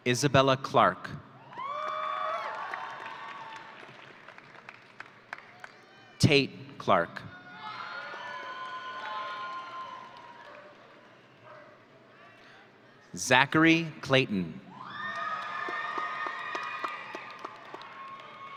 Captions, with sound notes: Isabella Clark. (audience cheering) Tate Clark. (audience cheering) Zachary Clayton. (audience cheering)